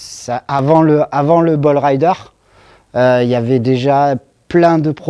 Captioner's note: speaking in foreign language